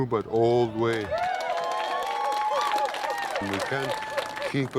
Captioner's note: cheers